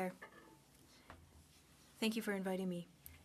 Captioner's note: speaking French